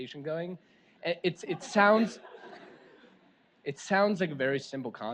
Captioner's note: audience laughs